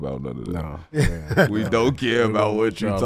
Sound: Metta laughs

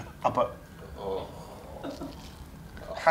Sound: sounds of disgust

